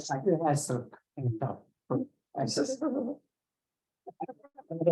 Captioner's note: laughs